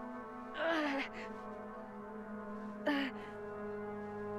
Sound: Brigit grunts

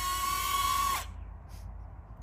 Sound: neo screeching

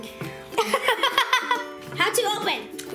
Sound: laughs

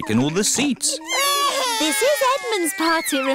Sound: babies crying

